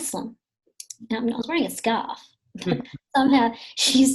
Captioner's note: people chuckling lightly